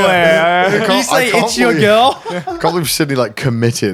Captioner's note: laughing